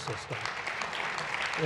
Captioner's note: applause